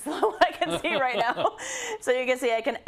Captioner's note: laugh